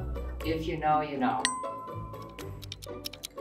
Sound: bell dings; clock ticking; playful music continues

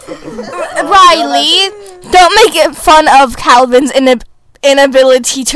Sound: laughter; hiccups

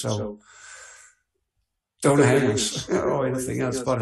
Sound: laughs

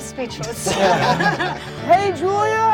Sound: laughter

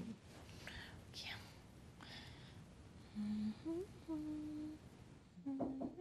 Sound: humming; knocking on door

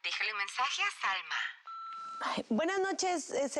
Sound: Pitido

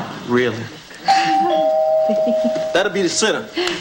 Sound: doorbell chimes

